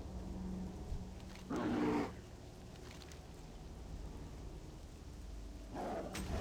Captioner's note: dog growling; ominous music